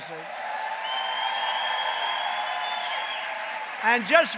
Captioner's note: applause